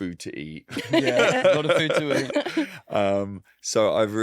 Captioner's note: group laughing